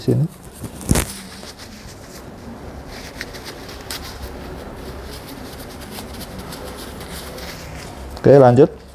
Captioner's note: tissues noise